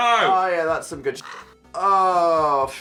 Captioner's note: crow cawing